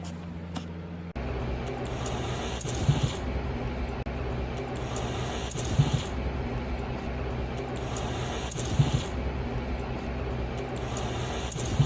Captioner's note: hisses five times